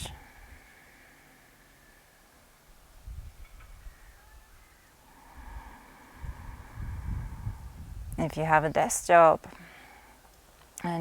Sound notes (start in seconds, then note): 0.1 inhales deeply; 5.0 exhales deeply